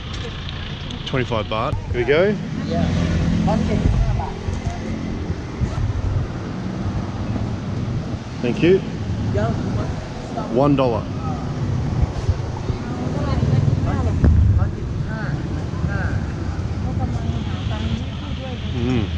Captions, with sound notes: - 25 Baht, here you go. - Yeah. - Thank you. One dollar. (street noises) (vendors speaking in foreign language)